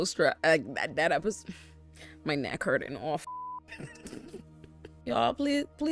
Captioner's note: beep